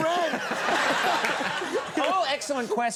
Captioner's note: audience laughing